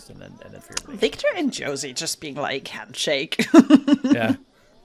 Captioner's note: laughs